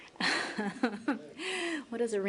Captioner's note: laughter